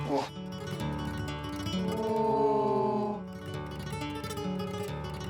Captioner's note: family marvels in unison